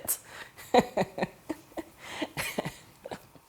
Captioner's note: chuckling